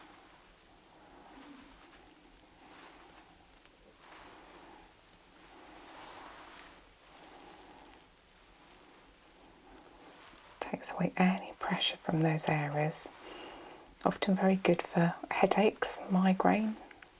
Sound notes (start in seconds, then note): 1.1 shuffling and ruffling